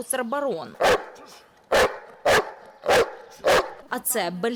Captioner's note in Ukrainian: гавкіт